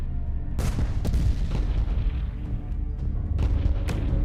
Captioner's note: Grad MLRS hits